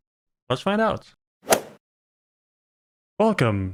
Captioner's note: golf ball hit sound